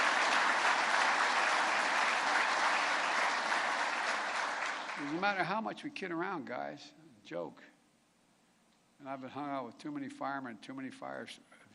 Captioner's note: applause